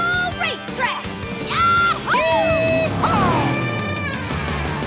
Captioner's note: cheering